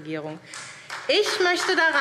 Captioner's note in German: Beifall SPD